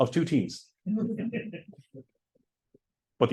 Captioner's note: laughter